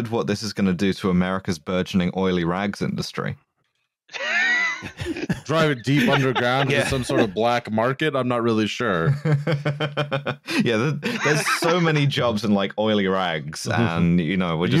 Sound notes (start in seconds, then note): 4.2 laughter; 8.9 chuckles